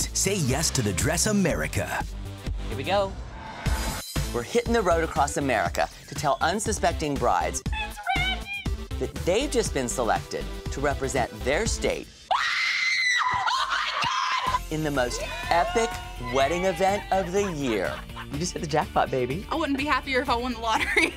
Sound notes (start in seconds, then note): 12.2 screams